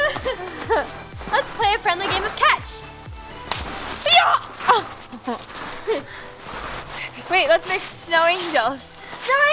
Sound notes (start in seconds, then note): 0.0 giggles; 4.6 grunts